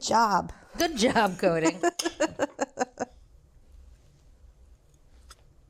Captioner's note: laughs